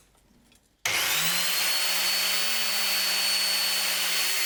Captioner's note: grinding sound